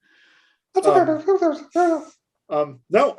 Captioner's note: high pitched chipmunk noises